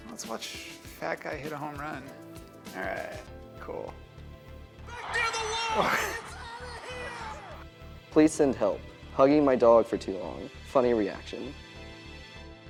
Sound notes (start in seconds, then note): 5.5 man laughs